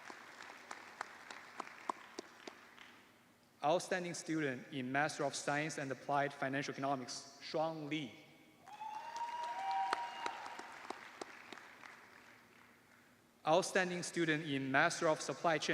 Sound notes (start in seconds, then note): 3.6 cheers and applause